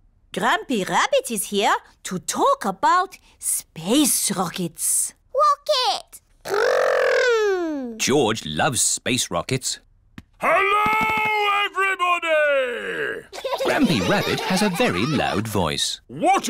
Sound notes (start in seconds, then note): 10.5 shouts; 13.3 laughter